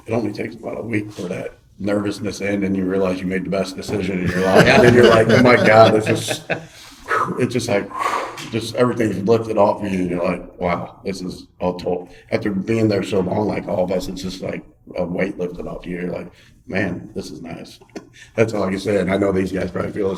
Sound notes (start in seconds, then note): 4.2 laughing